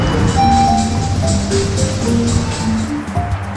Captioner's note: elevator sounds